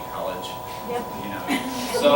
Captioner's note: laughter